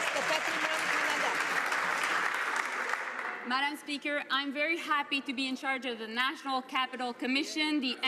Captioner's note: some Applause